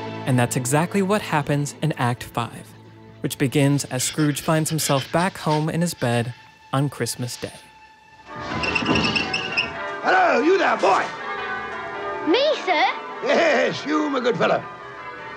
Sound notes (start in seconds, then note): 6.1 tense music; 9.3 bells ringing